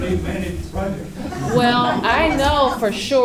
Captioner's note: laughter